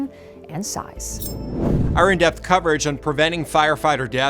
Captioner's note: air whooshes